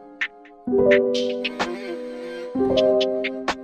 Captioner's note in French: Hmmm-hmm